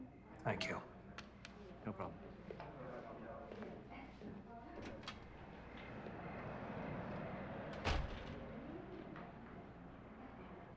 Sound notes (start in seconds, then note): 3.4 guests chattering